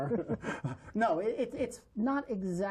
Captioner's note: laughter